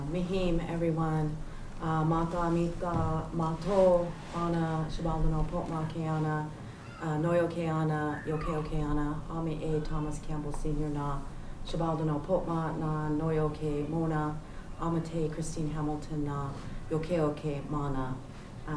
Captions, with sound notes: [NON-ENGLISH] everyone. [NON-ENGLISH SPEECH] Thomas Campbell Amity, Christine Hamilton [NON-ENGLISH]